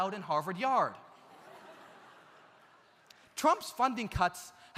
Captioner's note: audience laughs